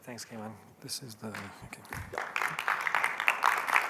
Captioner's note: applause